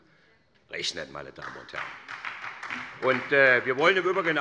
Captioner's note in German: Beifall bei der SPD